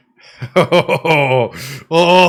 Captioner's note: laughs